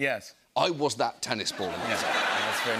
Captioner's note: laughter